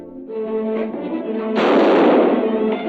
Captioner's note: gunshot; dramatic orchestral music